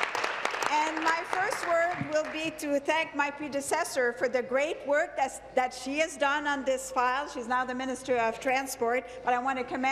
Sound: applause

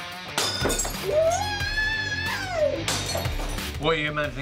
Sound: screaming

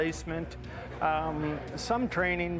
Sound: voiceover

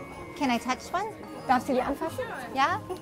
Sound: speaks German

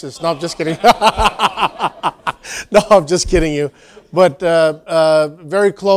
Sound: laugh

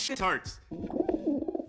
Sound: muffled dove coos; muffled dove cooz

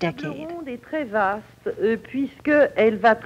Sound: speaking French

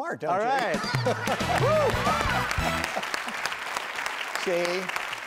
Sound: laughing; applauding

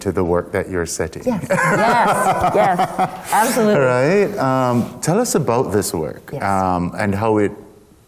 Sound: laughter

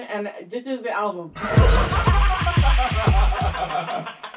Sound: both laugh

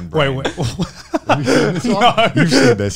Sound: laughs

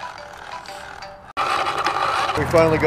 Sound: grinding sound

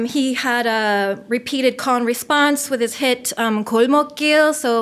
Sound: foreign language

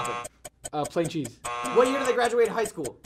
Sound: buzzer

